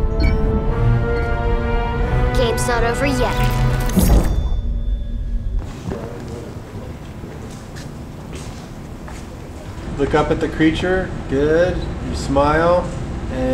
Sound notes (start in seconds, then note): 0.0 dramatic music; 3.9 sharp metallic sound